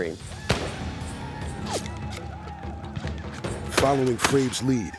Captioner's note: gunfire